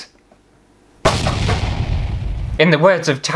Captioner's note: explosion!!